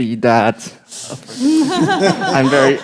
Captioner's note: group laughs